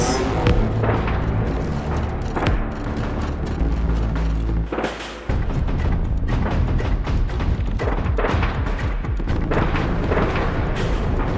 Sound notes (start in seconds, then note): 0.0 guns blaring; 0.1 pensive music